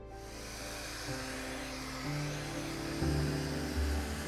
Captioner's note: gentle bright music; blower hissing